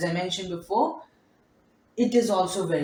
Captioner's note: long pause